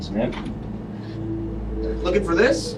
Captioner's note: door opens